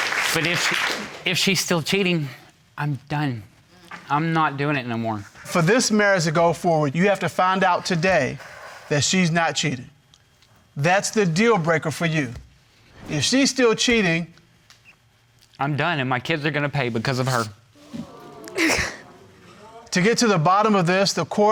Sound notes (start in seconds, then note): 17.7 sobbing